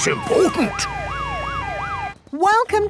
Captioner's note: sirens wailing